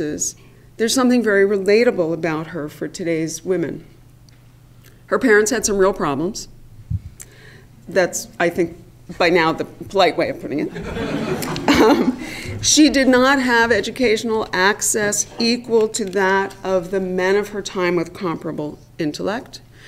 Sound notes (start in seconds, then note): 10.7 laugh